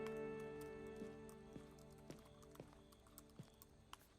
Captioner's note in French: gazouillis d'insectes